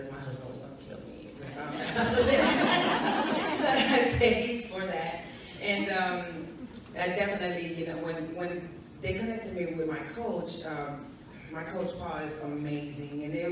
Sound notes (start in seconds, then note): 1.7 audience laughs